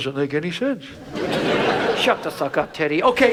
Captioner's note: audience laughs